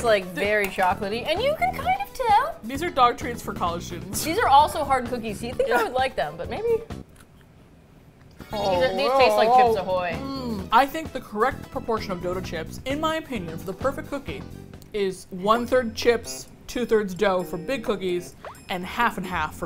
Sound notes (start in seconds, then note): 10.1 moans